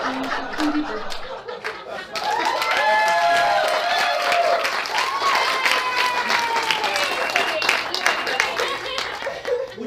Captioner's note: audience laughing; audience cheering